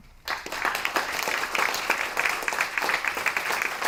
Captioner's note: applause